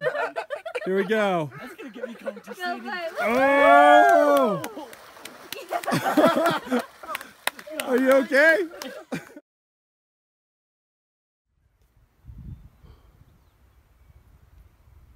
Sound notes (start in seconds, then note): 0.0 laughter; 3.2 crowd moans, cheers, claps, laughs